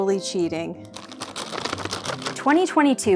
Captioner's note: shaking sounds